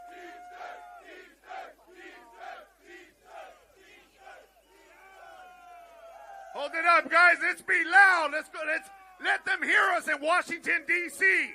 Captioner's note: chanting